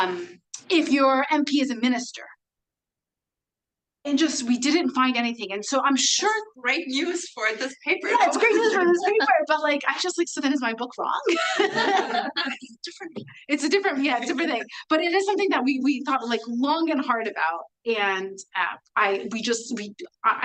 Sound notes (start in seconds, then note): 11.3 everyone laughing